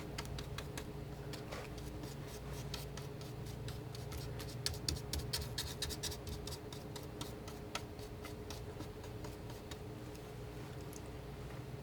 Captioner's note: scratching